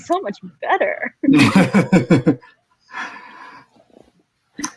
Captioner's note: laughs